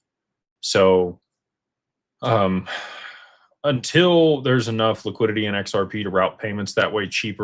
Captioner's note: sighs and gasps